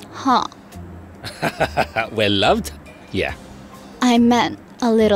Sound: laughs

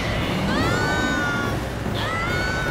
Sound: screaming

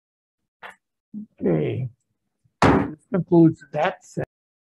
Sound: gavel bangs

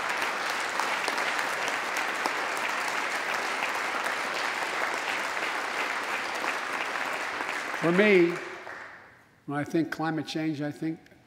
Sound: applause

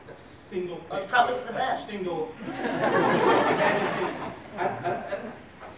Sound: laughing

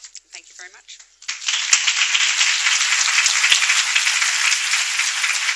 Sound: applause

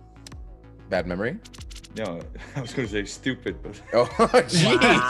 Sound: laugh

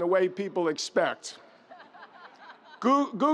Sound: audience member laughs

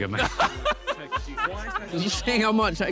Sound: laughing

